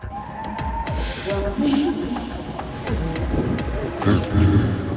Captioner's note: soft intense music continues; soft echoing; muffled echo